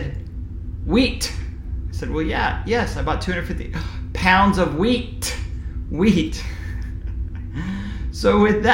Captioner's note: laughing sound